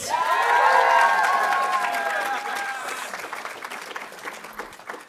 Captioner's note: audience applauding